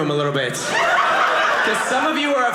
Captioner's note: audience laughing